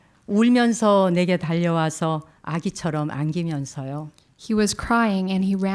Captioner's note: speaking in Korean